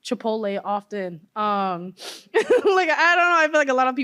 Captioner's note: laughter